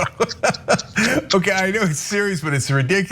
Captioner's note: laugh